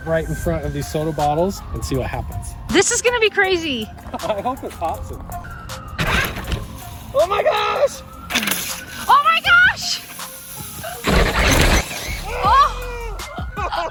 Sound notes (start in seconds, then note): 6.1 RC car whirring; 9.7 soda spritzing; 12.1 both screaming; 13.7 laughs